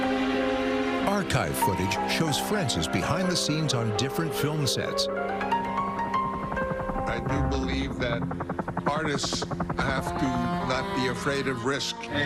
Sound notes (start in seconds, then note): 6.2 helicopter blades whirring